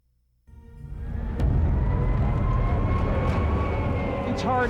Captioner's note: sirens wailing